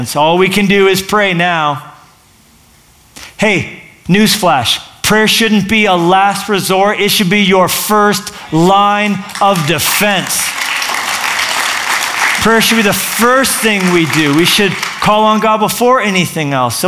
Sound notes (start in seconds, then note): 9.2 applause